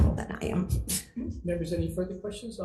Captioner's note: laughing